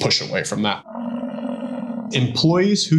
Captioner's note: buffalo grumbling